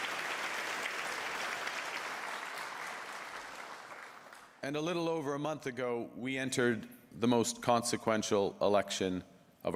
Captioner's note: applause